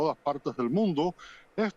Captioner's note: HABLA EN INGLéS